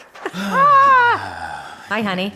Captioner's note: sighing